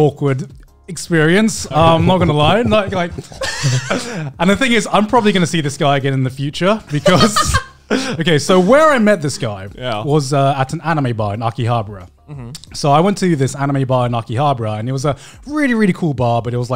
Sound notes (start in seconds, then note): 1.6 laughs; 1.6 chuckles; 6.9 laughs